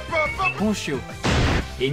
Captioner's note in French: boom